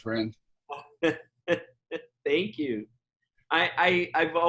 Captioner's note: laughs